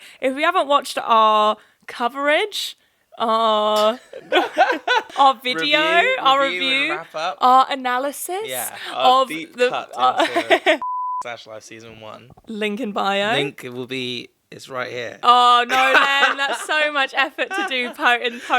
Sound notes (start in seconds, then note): 10.8 beep